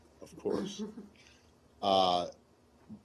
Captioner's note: laughter